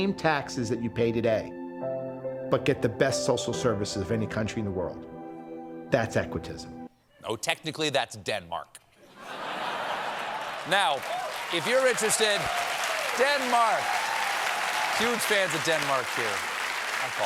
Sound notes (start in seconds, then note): 11.1 applause; 11.1 laughter